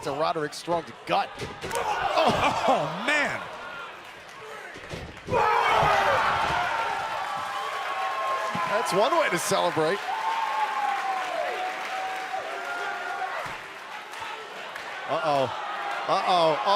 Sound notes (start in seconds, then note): 11.5 crowd chatter; 16.5 crowd cheering